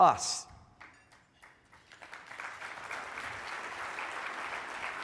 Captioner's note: audience clapping